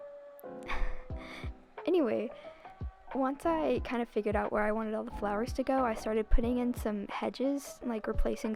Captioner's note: laughing